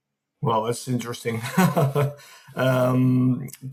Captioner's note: chuckles